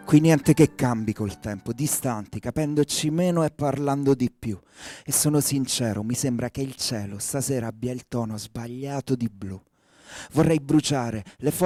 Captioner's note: speaking italian